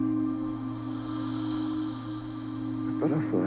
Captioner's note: The Matriarch exhales